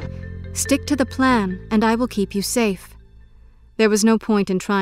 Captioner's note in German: Voiceover